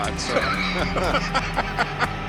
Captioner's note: laughs